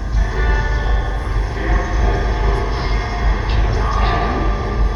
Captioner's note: ghostly voice